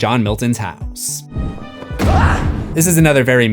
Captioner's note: screams